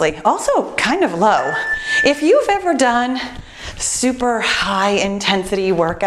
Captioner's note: timer beeps